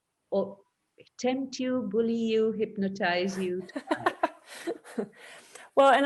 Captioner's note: laughs